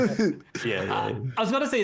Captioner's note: laughs